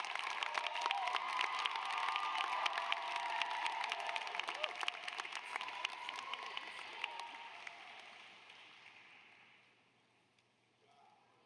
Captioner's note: applause